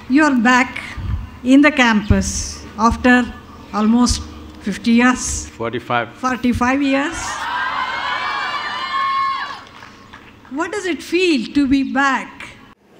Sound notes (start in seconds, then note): 7.3 cheers